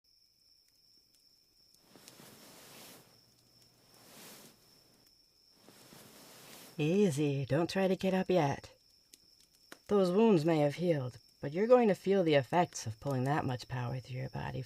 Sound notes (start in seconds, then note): 0.0 crackling fire, outdoor sounds throughout; 3.1 blankets rustling